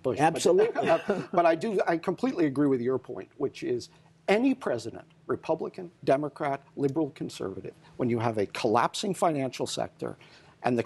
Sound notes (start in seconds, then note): 0.6 laughter